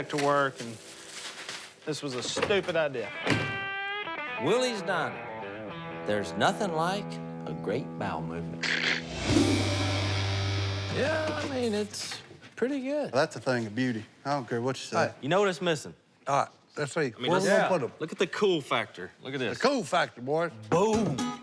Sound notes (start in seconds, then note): 3.2 door shuts